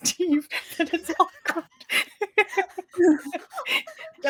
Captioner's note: cast laughing